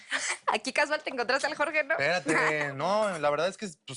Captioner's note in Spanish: Ríe